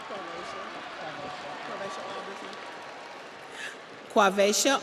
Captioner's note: audience cheers; audience applauds